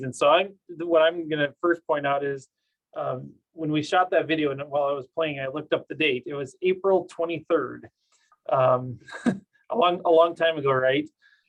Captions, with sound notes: So what I'm gonna first point out is when we shot that video and while I was playing it, I looked up the date, it was April 23rd. (chuckles) A long time ago, right?